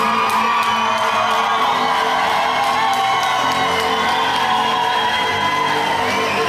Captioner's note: audience cheers